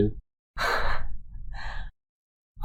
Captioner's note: chuckles